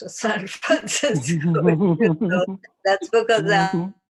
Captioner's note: laughter